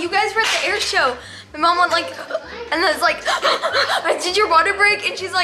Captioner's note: gasps